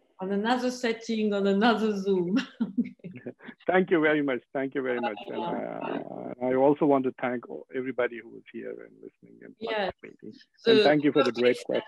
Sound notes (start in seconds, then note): 3.0 laughing